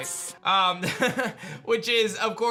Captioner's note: chuckles